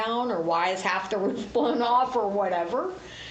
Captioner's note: laughs